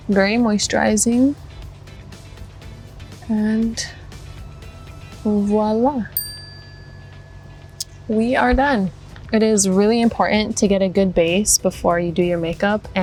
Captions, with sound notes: Very moisturizing. And voila. [bell dings] We are done. It is really important to get a good base before you do your makeup.